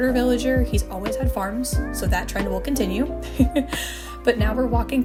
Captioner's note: laughter